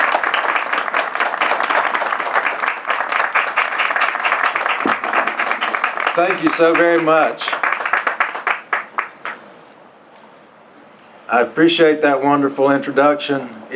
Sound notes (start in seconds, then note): 0.0 applause; 7.5 applause continues